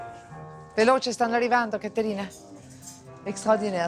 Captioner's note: speaks in Italian